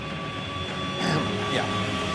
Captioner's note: clears throat